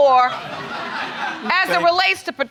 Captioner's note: audience laughing